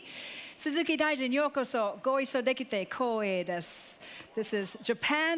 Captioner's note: speaking in foreign language